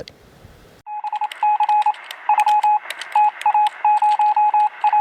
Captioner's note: electronic beeping